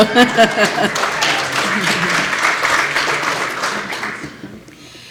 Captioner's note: applause